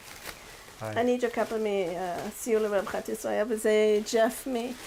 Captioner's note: speaks in foreign language